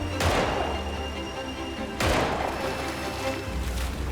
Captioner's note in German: Schüsse